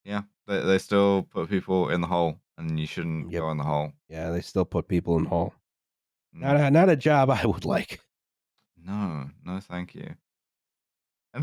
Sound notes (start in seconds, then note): none